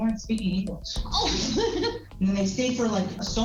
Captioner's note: laughs